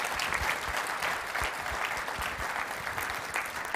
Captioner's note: applause